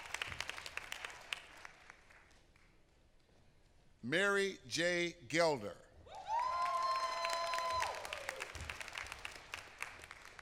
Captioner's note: applause